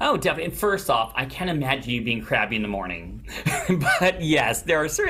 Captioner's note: laughs